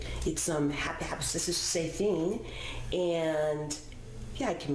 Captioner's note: mumbles secretively